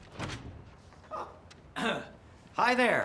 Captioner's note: coughs